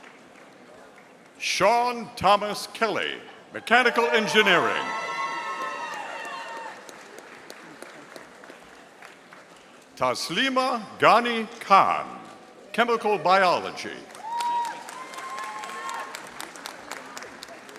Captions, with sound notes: Sean Thomas Kelly, Mechanical Engineering. (audience cheering) Taslima Ghani Khan, Chemical Biology. (audience applauding)